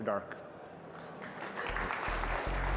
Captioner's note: applause